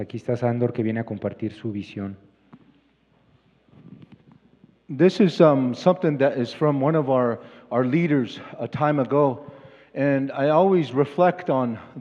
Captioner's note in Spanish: Expositor habla en inglés